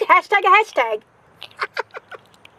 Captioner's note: laughs